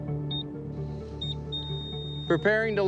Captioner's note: beeping